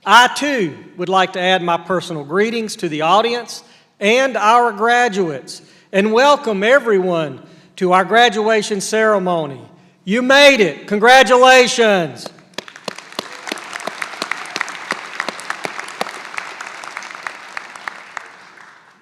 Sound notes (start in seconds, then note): 15.4 applause